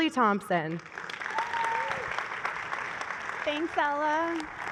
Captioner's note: applause